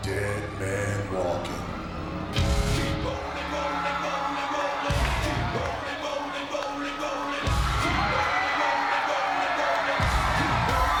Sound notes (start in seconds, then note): 2.8 crowd cheering; 2.8 upbeat music